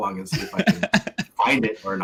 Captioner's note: laughs